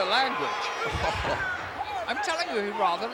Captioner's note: laugh